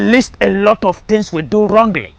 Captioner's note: none